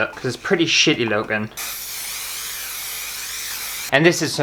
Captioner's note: tsssssss